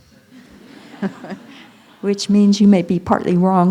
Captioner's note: laughter